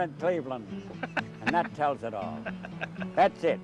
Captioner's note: laughs off camera